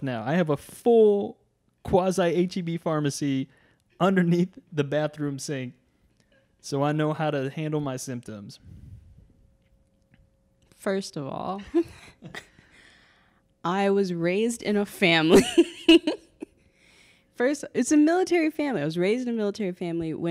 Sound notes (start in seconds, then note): 11.6 both laughing; 16.3 laughing